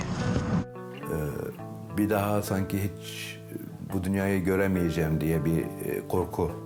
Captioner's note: speaks in foreign language